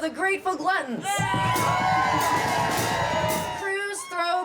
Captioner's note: crowd cheers